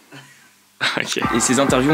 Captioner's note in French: rire